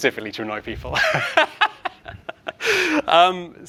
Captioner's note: laughs